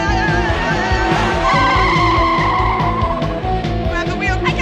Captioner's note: tires screeching